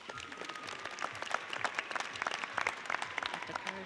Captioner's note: audience applauds